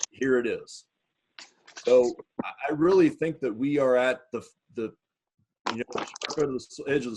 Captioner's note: speaks faintly